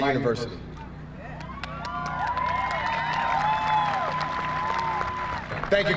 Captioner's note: cheering